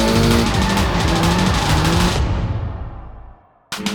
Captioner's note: tires squeal